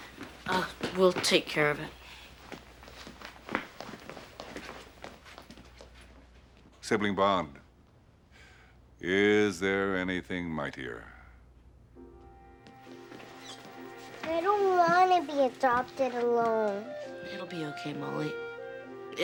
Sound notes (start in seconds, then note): none